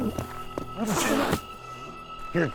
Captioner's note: stephen sneezes